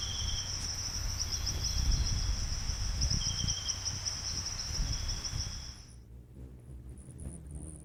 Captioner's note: birds singing and chirping; bird chirping; buzzing